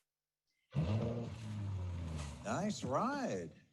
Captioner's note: engine revving